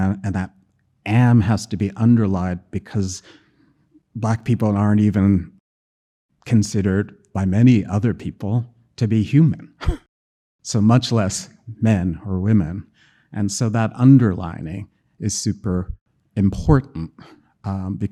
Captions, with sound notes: and that "am" has to be underlined because Black people aren't even considered by many other people to be human, [chuckling] so much less men or women. And so that underlining is super important